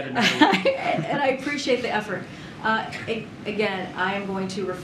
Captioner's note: laughs